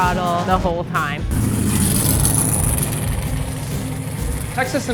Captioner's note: engine rumbles